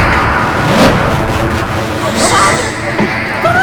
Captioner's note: dramatic music; gasping